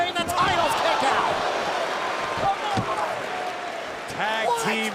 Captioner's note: crowd cheering